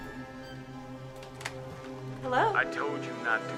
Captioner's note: phone receiver clatters